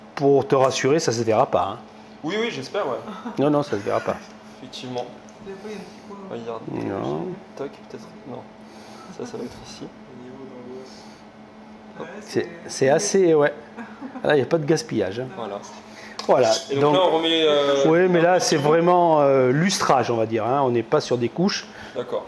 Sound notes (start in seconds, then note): 3.0 laughs